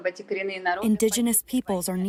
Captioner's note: through translator